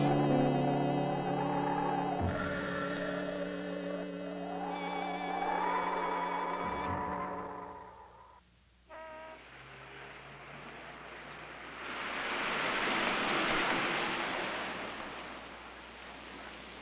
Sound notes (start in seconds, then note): 8.9 car horn honking; 11.1 car engine running